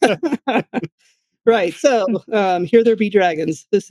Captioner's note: laughing